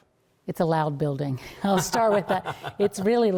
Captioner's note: laughter